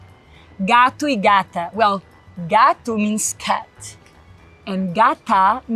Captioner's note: speaks Portuguese